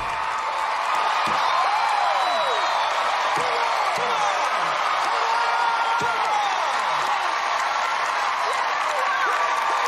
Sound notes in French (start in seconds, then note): 0.4 cheering; 5.2 screaming